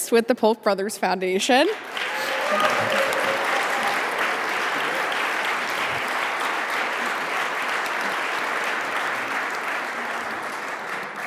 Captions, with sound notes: with the Polk Brothers Foundation. (audience applauding)